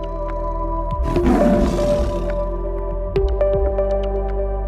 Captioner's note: tiger Roar